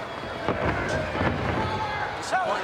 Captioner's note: footsteps plodding